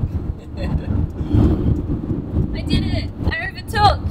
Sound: chuckles

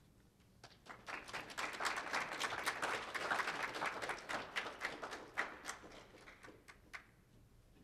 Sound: applause

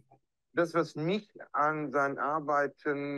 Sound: speaking german

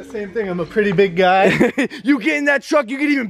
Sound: Logan laughs

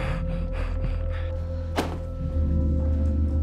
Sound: breathing heavily; thudding

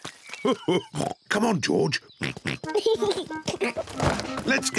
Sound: oinks and giggles; chuckles

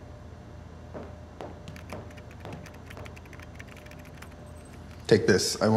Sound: typing noises

